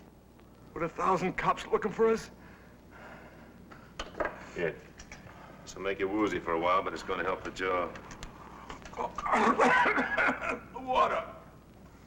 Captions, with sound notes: - With a thousand cops looking for us? - Here, this'll make you woozy for a while, but it's gonna help the jaw. (Slug gagging) - Water.